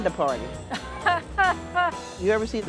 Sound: laughing

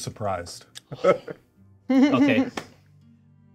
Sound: co-hosts laughing

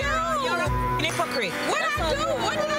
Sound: beep

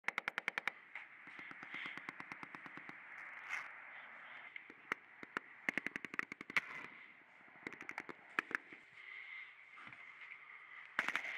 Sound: faint gunfire

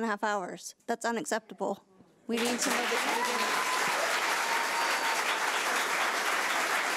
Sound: audience applauding

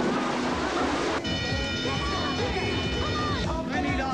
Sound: alarm

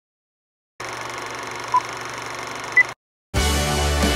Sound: film projector sound

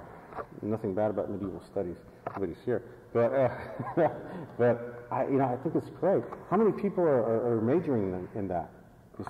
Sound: laughs

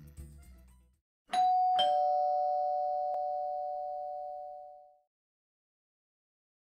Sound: door bell rings

